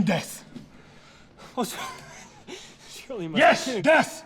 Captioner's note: laughs